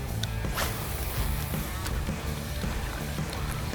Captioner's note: reel casts